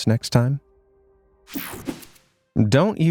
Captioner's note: air whooshing